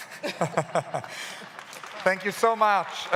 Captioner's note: laughs